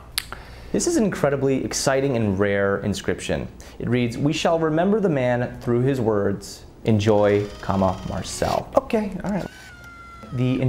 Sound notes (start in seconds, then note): 9.3 whirring